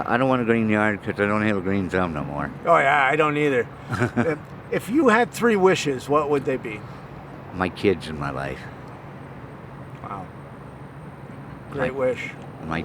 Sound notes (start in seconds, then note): 3.8 chuckles